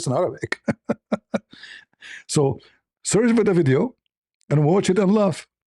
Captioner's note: laughter